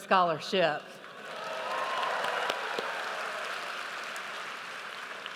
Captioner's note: audience cheers